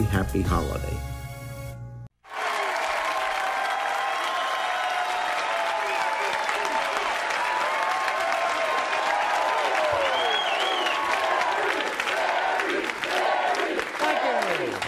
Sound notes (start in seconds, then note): 2.6 audience cheering and applauding